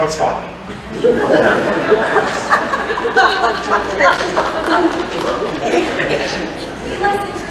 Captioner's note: laughter